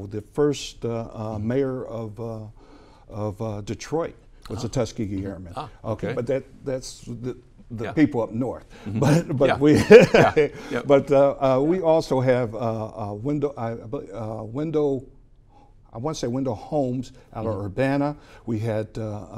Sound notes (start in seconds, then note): 8.8 giggles